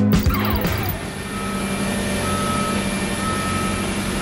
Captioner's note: beeping